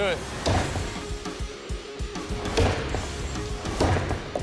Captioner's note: chopping